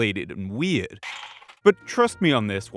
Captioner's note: drawing blinds